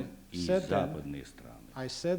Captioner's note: non-english speech